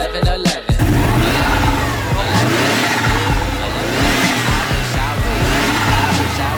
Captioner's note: many awesome engine sounds